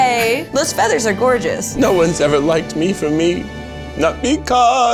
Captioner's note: in puppet voice